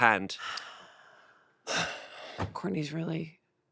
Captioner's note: they sigh